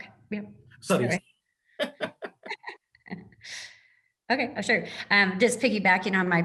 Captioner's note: laugh